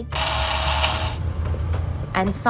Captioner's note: grinding noise